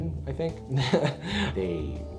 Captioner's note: laughs